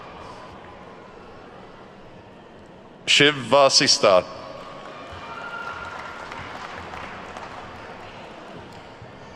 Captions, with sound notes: Shiv Vaasista. (attendees clapping)